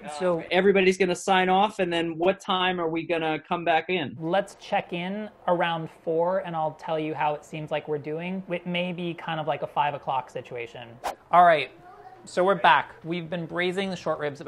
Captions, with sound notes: So everybody's gonna sign off, and then what time are we gonna come back in? Let's check in around four. And I'll tell you how it seems like we're doing. It may be a five o'clock situation. [Whoosh] [chatter] All right. So we're back. We've been braising the short ribs